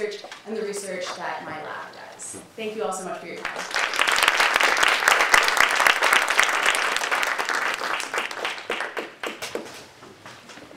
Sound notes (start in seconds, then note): 3.4 audience applauding